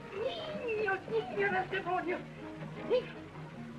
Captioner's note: yelling in Spanish continues